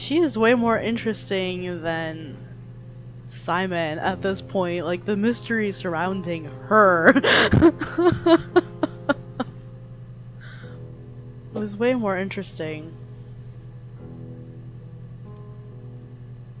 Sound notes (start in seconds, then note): 10.1 laughs